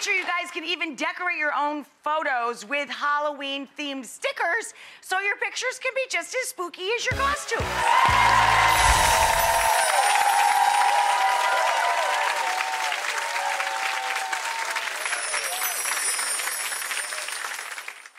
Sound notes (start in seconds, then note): 7.3 audience cheering; 8.6 chimes tinkling; 14.8 chimes tinkling